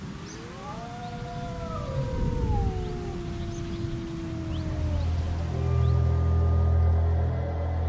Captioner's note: howls